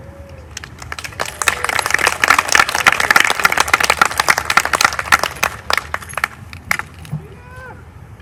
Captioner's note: applause